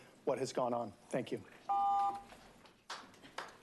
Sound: beeping

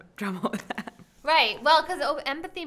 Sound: chuckling

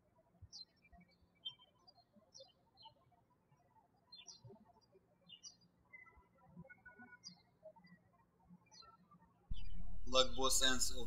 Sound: birds chirping

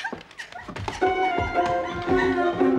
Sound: sobs

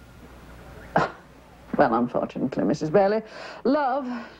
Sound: scoffs

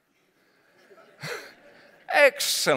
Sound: laughter

